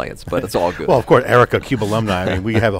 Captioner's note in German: kichert